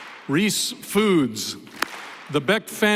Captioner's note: applause